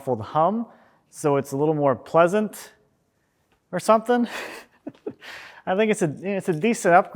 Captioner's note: laughs